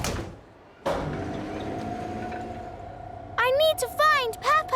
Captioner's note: lift moving